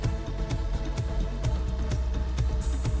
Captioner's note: none